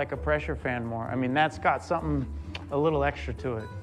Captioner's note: clicks tongue